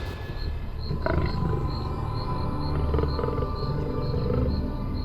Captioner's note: hippo grunting